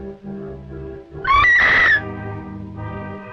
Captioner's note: screaming